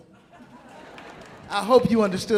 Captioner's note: audience laughing